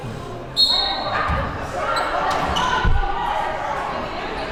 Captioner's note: whistle blows